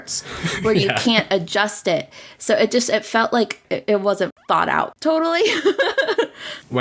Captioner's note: laughs